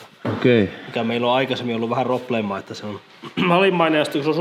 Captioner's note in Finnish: rykäisee